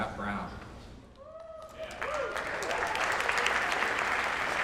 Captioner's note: applause, cheers